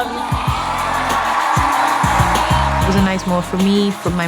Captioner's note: audience cheering